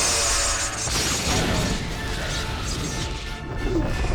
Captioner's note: electrical buzzing; explosion